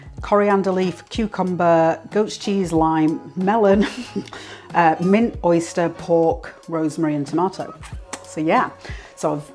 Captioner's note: laughs